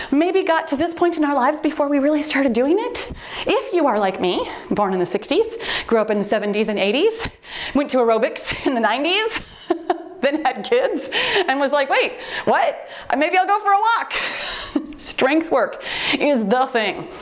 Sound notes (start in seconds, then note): 9.4 chuckles